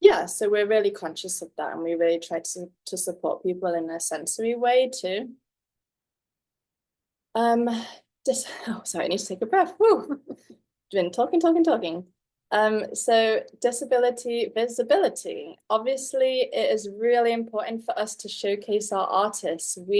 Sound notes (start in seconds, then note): none